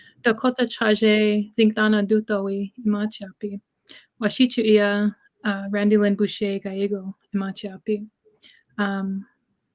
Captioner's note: speaking Dakota